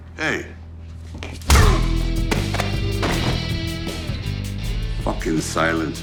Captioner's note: body thumping; fist pounding